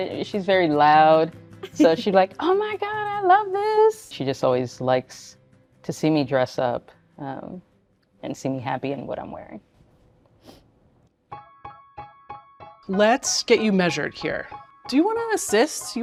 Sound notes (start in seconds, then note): 10.4 sniffles; 11.3 bright piano music